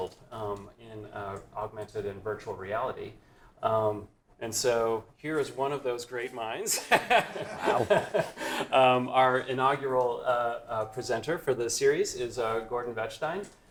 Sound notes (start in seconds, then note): 6.8 laughs